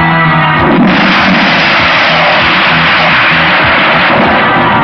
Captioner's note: splashing; tense music